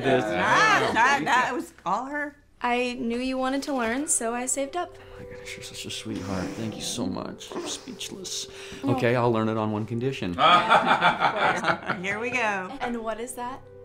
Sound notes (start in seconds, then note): 10.4 laughing